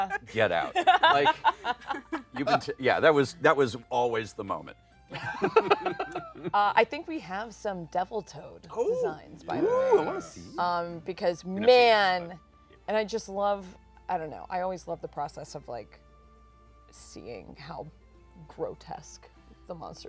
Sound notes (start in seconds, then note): 0.0 laughs; 5.1 laughter